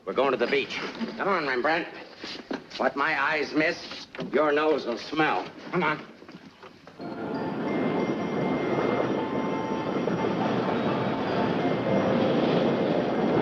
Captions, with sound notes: We're going to the beach. Come on, Rembrandt. What my eyes miss, your nose will smell. Come on. (cheerful music) (roller coaster rattling)